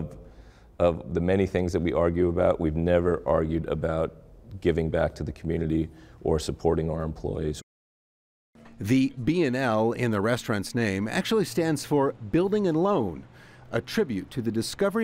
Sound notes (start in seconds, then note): none